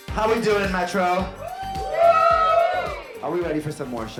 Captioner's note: audience cheers